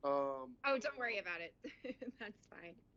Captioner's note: laughter